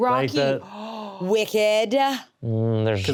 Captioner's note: gasps